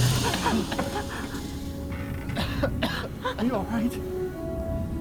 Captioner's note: Bobby coughing